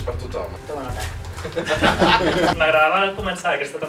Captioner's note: laughs